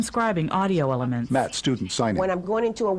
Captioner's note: voiceover